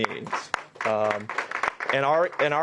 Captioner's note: applause